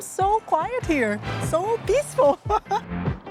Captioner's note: laughs